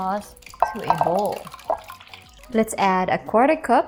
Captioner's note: sauce splatters; bowl thuds